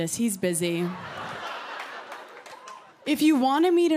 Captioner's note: laughter